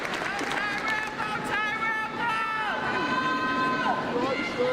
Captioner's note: crowd cheering